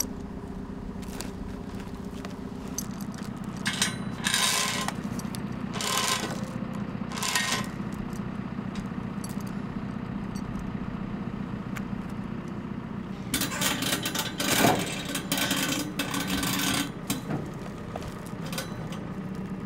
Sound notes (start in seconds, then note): 5.7 chain creaking; 9.2 forklift engine roaring